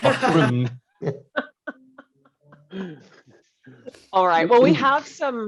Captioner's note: all laughing